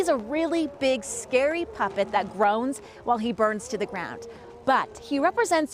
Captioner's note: moaning